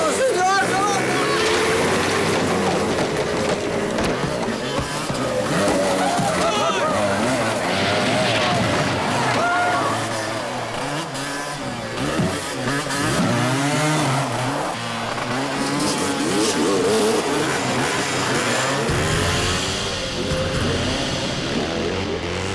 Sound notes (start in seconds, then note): 6.6 people screaming; 19.3 slow dramatic music